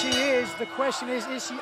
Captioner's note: bell ringing